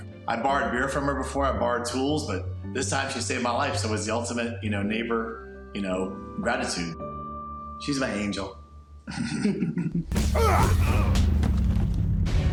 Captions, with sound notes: I borrowed beer from her before, I borrowed tools, but this time she saved my life, so it was the ultimate, you know, neighbor, you know, gratitude. She's my angel. [laughs]